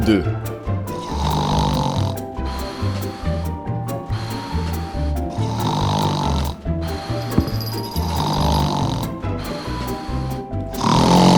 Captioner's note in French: bruit de ronflement